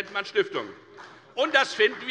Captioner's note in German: Beifall bei der FDP